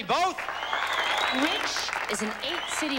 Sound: applause

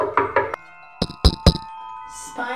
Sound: hand knocking

